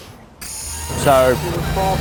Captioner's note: glitch noise